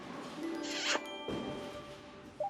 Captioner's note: smooch